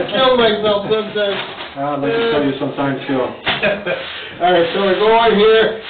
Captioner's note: laughs